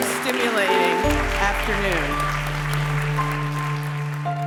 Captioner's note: applause